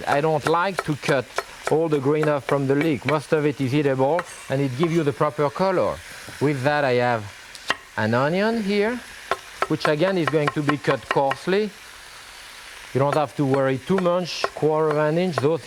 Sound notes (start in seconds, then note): 4.2 knife scrapes; 9.4 knife thudding